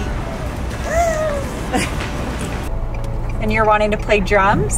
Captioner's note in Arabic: هتاف